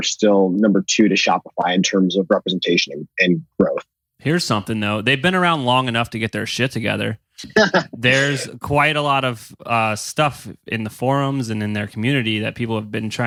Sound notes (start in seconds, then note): 7.5 laughs